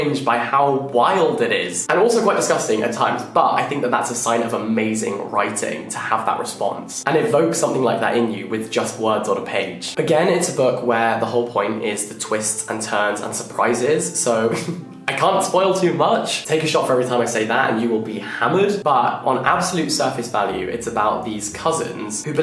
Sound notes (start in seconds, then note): 14.4 laughing